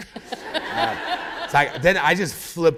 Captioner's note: laughter